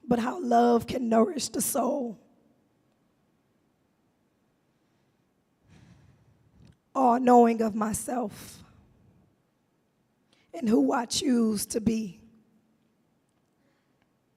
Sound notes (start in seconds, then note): 5.7 sighs